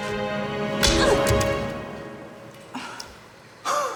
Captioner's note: slap